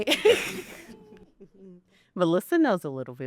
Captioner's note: all chuckle